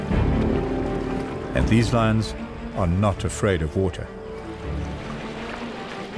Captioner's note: animals calling; animals calling